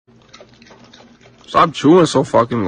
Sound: chewing

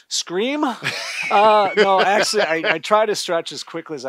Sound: laughter

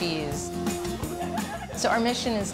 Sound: laughter

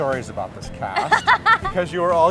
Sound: laughing

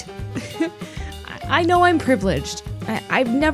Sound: laughs

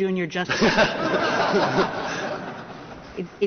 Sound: laughter

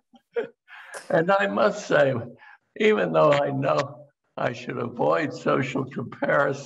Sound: laughter

